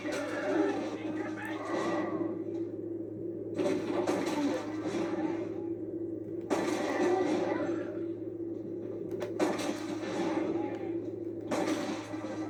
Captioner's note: Sounds of cold blood ending and firing